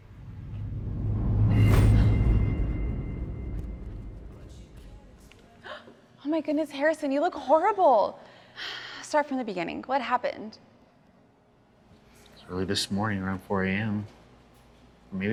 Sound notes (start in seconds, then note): 0.0 dramatic music rumbling; 0.0 dramatic music thumps; 6.1 gasps